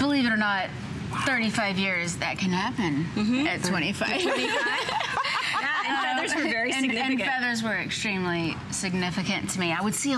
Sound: laughter

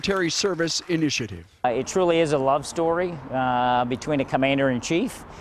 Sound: applause

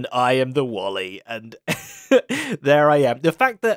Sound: laughs

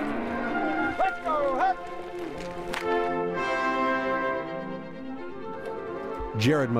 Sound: calling to cattle

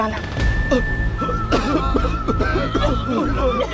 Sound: people coughing

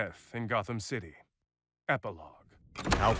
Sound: door clicks open

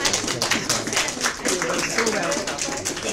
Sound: audience applause

